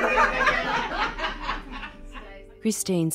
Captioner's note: people laughing